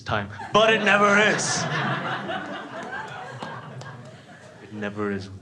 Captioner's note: crowd laughs